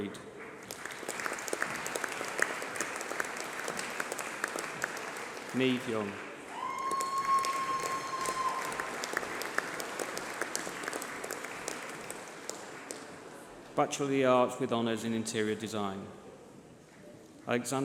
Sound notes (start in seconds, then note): 11.7 applause